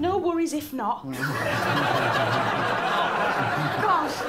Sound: laughter

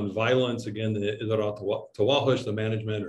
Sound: speaking in foreign language

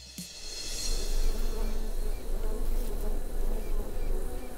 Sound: bees buzzing

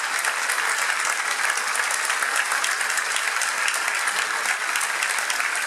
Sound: audience clapping

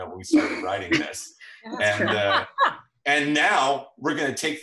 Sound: laughing

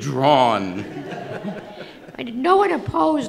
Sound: laughter

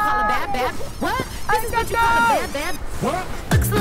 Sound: cheering

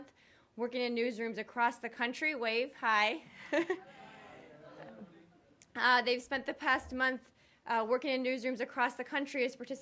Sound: laughter

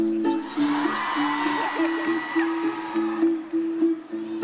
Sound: crowd cheering

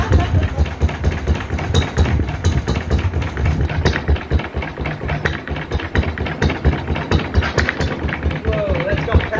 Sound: inane giggles

